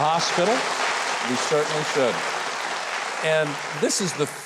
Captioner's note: audience applauding